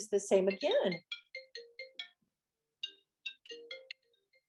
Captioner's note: phone ringing